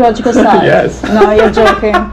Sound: laughing

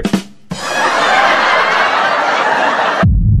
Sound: laugh track

